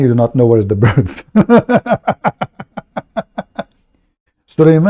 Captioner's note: Ketawa